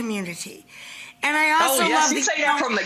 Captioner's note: murmurs